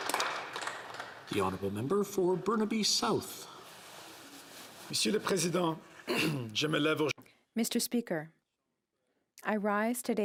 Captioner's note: applause